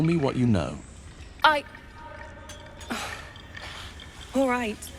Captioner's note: sighs